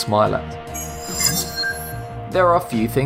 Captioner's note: sharp chiming